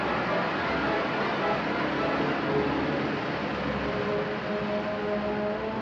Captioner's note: ominous music; flames burning; ominous music